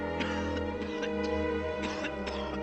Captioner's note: coughing